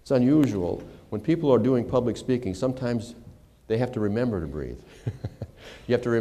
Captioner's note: laughter